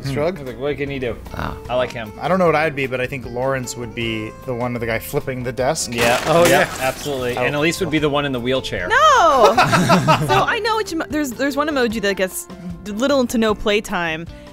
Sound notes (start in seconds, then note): 9.4 laughter